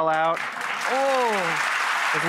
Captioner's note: audience clapping